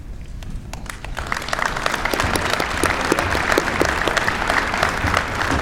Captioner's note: applause